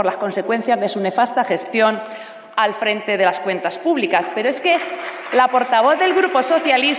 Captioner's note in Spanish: Aplausos